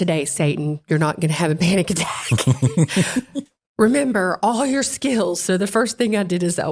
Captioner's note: laugh